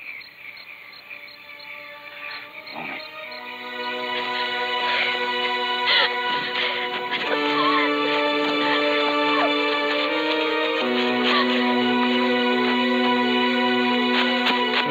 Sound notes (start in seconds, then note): 0.2 ominous music; 5.8 whimpering